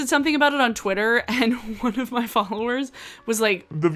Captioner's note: giggles